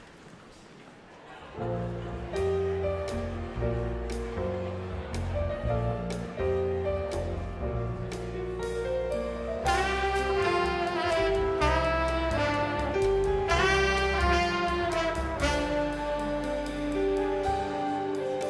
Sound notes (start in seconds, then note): 1.6 congregation chatters; 1.6 smooth jazz music